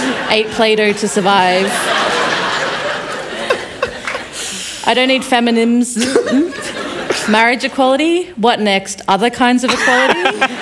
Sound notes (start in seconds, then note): 2.5 laughter